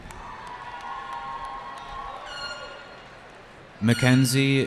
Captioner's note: cheering